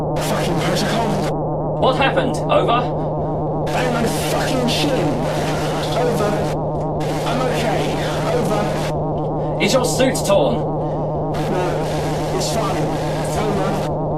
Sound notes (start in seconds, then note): 3.7 voice distorting